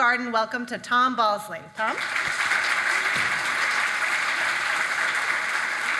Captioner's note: audience clapping